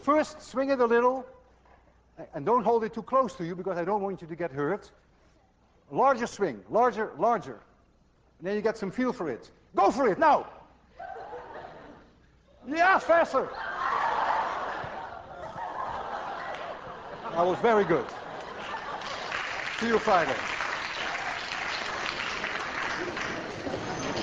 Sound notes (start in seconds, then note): 10.1 class laughs; 15.1 class laughs and applauds; 18.3 applause